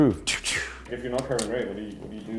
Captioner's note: clicking